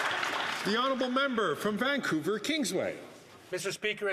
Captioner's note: some Applause